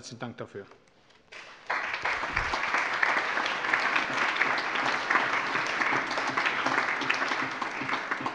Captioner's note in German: Allgemeiner Beifall